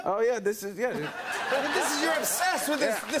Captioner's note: laughter